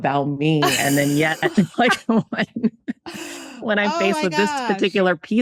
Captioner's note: laughs